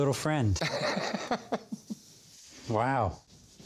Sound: laughs

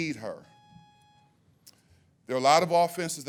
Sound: timer buzzes

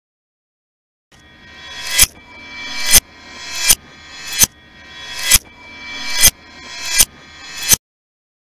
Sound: sound of knife

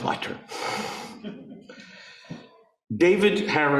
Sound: audience laughing

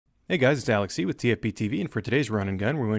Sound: voiceover

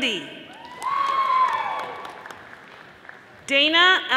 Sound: audience applauding

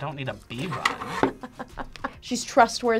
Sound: React laughs

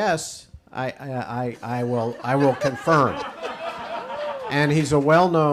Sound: audience laughs

